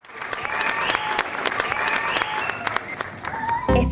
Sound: applauding

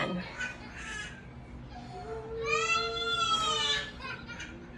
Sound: wails

